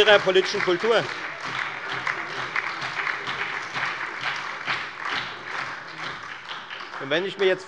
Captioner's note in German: Heiterkeit und Beifall bei der FDP, der SPD und der LINKEN